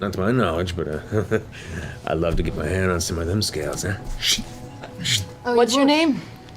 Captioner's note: chuckles; blade scrapes